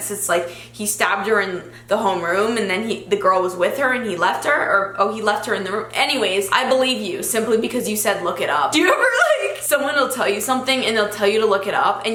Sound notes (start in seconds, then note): 8.8 giggles